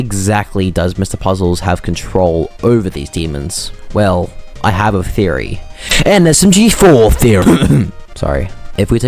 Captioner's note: cough